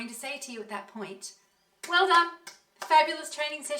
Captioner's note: applause